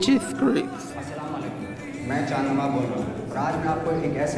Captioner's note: non-english speech